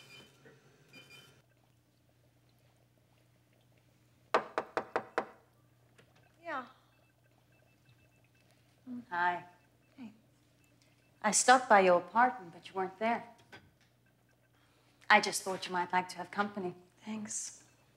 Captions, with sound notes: (knocks at door) - Yeah? - Hi. - Hey. - I stopped by your apartment, but you weren't there. I just thought you might like to have company. - Thanks.